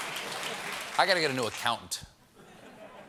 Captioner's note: applause